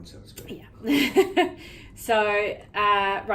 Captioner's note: laughs